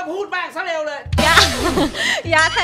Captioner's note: laughs